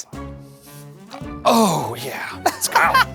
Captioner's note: sniffing; laughing